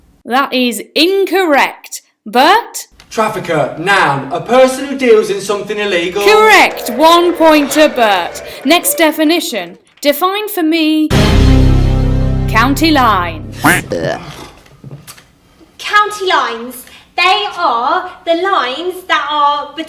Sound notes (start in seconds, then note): 11.1 dramatic music; 13.0 funny buzzing sounds